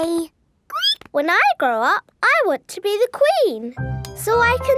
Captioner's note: squeaks